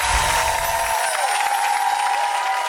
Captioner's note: chimes; audience cheers